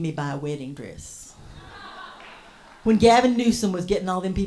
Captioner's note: audience laughs